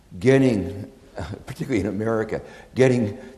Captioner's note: chuckles